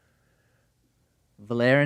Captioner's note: none